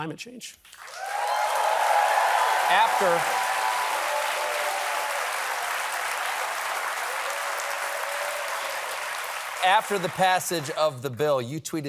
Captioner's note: cheers and applause